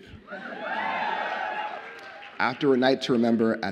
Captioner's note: audience cheers